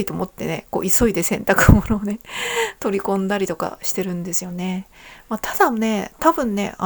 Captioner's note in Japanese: 息をのむ音